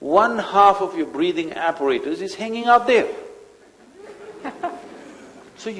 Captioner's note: few laugh